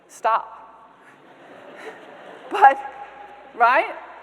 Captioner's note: audience members laughing